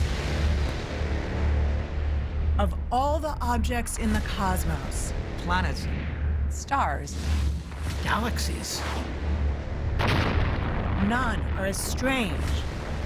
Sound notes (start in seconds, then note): 9.8 explosion echoes